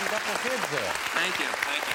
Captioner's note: applause